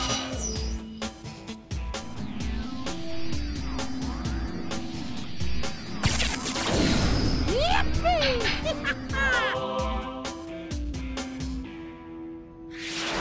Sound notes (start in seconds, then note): 7.6 laughing